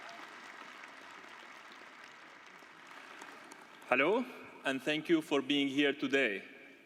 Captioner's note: applause